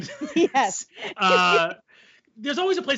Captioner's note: laughs